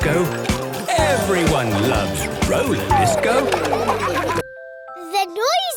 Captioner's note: laughter